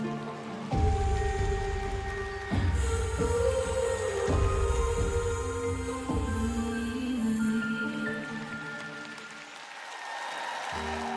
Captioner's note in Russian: аплодисменты; ликование